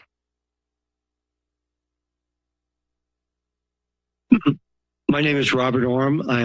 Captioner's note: silence